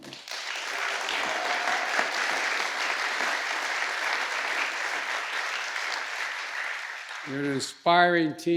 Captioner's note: applause